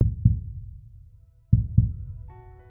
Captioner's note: mellow music; heart beating